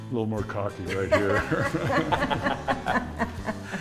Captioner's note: group laughs